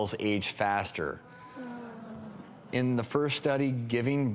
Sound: groaning

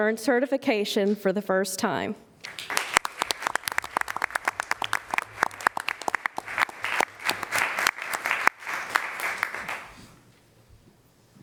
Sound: applause

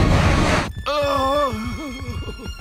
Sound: groaning

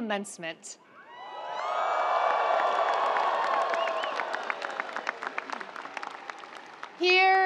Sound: audience cheering; audience applauding

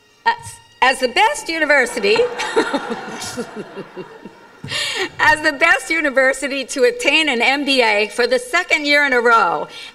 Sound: laughs

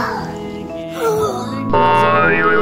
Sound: gasps

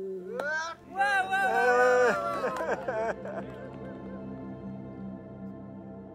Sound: men cheering and applauding

